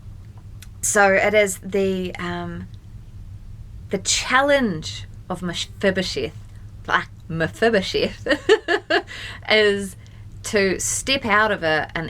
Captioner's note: laughs